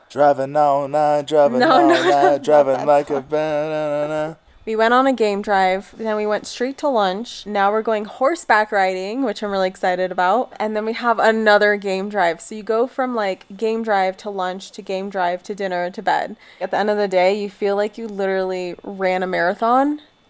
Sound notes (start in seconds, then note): 1.2 laughing amusingly; 3.5 humming happily